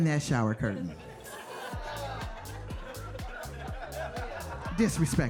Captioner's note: audience laughs